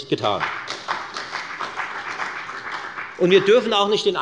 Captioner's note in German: Beifall bei der FDP und bei Abgeordneten der SPD